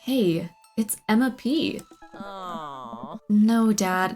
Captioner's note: groans